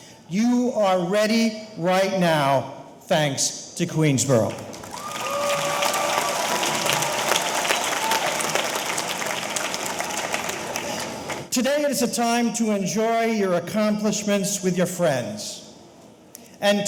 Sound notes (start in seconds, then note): 4.5 audience applauding; 4.7 audience cheering